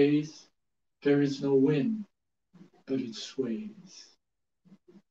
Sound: speaks in Japanese

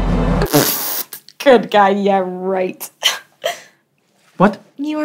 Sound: scoffs

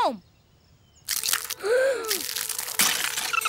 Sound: gasping

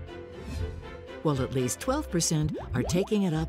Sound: bubbly popping

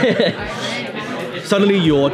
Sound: laughs

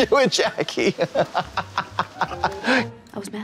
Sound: Katya snickers

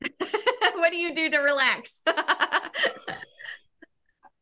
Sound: laughing

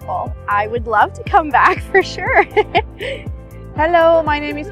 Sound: chuckling

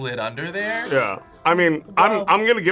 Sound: React gasps

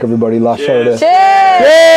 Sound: crowd

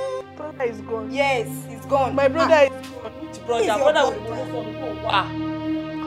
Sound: indistinct chatter

